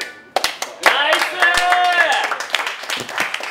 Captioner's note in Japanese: 拍手